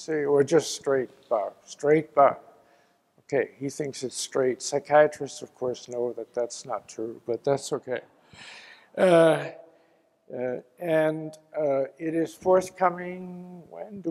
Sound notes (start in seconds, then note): 7.5 laugh